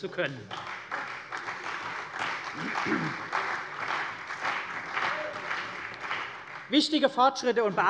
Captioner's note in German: Beifall bei der CDU und dem BÜNDNIS 90/DIE GRÜNEN